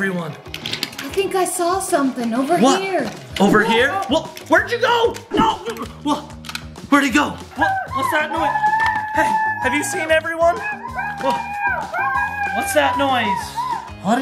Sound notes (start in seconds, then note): 7.6 faint screaming